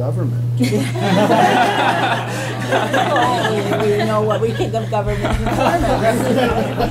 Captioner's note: laughter